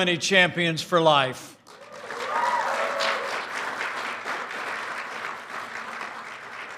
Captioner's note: applause